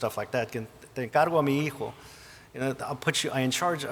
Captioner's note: speaking Spanish